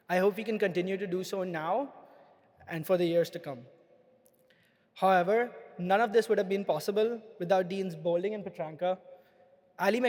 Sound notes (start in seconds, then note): none